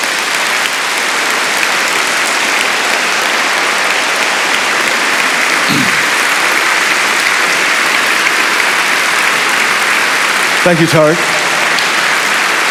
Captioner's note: applause